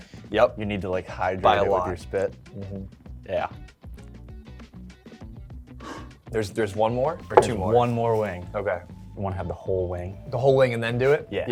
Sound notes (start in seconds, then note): 5.8 deep Sigh